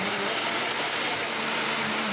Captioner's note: blender noises